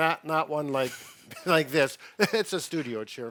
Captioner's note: chuckling